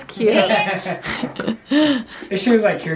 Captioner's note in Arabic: تضحك